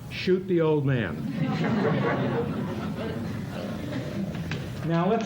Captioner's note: laughter